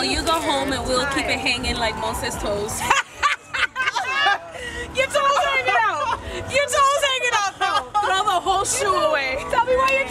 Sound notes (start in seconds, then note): 2.8 laughs hysterically